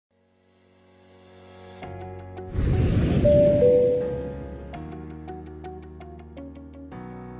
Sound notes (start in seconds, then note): 1.3 upbeat music; 2.6 airplane engine roaring; 3.2 upbeat music; 3.3 bell dinging